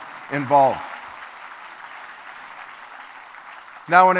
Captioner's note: applause